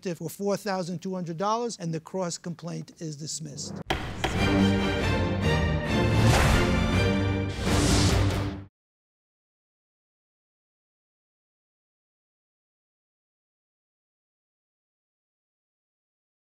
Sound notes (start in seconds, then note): 3.6 dramatic music; 3.8 gavel banging